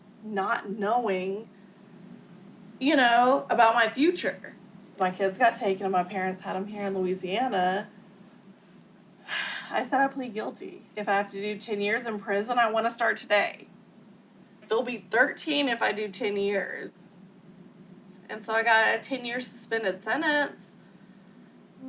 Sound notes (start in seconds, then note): 9.3 sighs